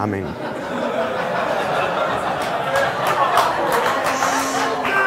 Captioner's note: audience laughing